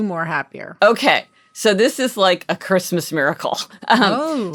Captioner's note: laughing